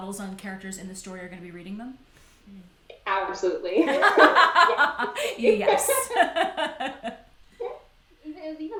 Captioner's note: laughter